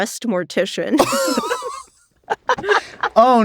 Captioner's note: all laugh